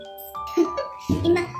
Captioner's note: laughs